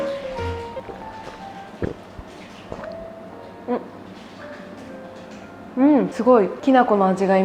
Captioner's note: drinking sounds